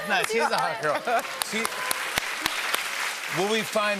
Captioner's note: applause